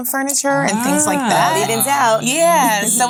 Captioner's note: ladies aw-ing